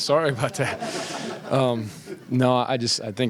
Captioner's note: laughter